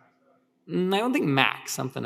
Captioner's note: speaker 6 speaks faintly